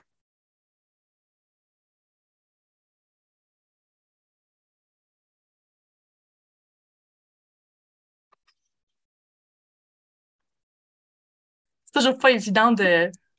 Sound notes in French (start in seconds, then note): 1.5 pause